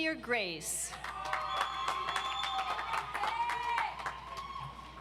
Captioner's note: audience applauds